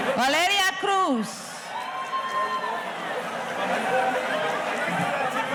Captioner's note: audience cheering